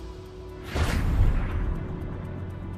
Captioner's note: rocket blasting